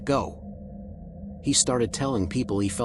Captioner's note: somber tone